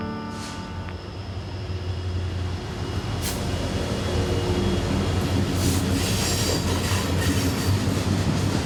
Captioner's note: train noise